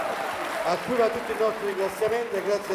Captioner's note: Applauso